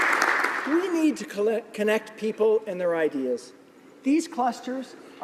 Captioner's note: applause